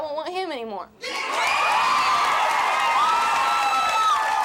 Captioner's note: cheering